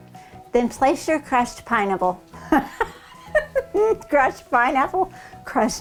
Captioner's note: laughing